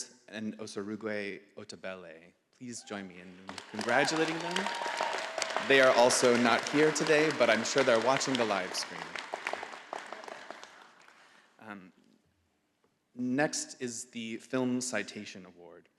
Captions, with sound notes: and Osarugue Otebele. Please join me in congratulating them. (audience applauding) They are also not here today, but I'm sure they're watching the live stream. Next is the Film Citation Award.